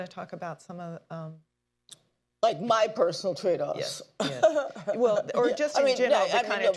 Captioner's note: laughs